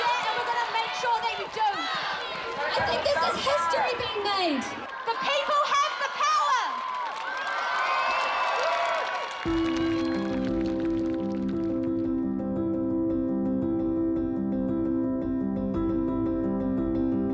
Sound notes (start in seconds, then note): 7.2 crowd cheering; 9.4 upbeat music